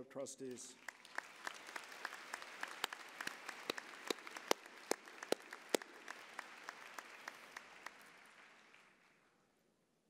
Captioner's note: applause